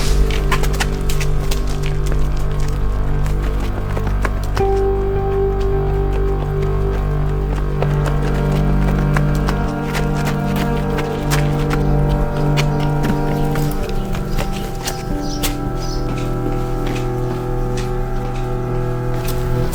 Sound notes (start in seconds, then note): 4.2 sound of fast steps